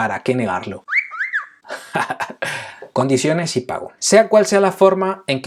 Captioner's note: laughs